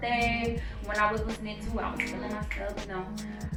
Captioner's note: snaps fingers